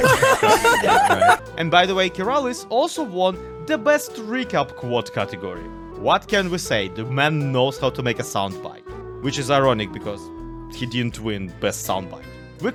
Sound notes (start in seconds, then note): 0.0 crowd laughs; 1.6 crowd laughs louder